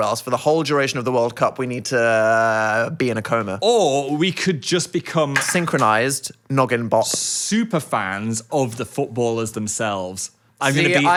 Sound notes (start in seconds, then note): none